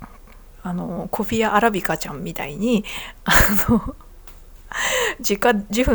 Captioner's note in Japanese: 鼻息